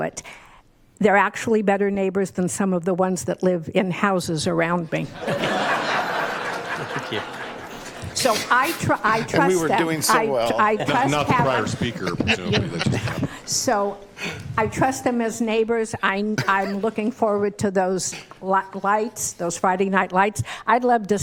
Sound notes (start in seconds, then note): 9.1 laughter; 10.6 laughter